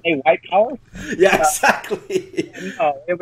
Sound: laughs

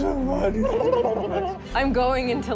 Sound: blubbering

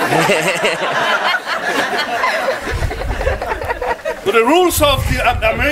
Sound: guests laughing

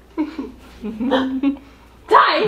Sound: gasps

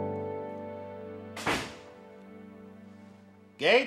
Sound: door slams shut

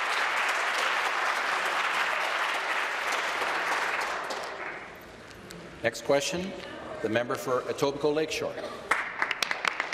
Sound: applause

